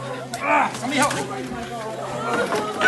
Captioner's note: groans